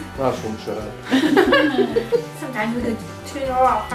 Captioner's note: laughter